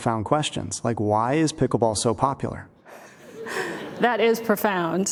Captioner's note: laughter